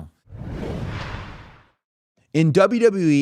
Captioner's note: graphic whooshing